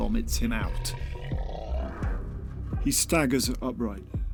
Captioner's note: vomiting sound